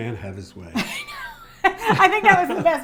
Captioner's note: they laugh